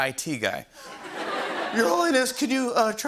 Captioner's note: laughter